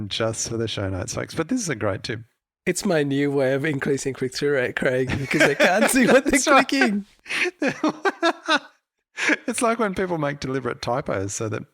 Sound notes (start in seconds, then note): 7.2 both laughing